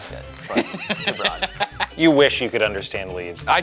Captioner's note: laughing